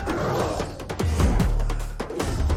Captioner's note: grunting